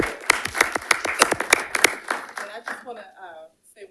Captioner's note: audience applauding